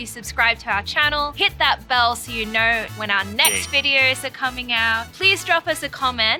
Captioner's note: ding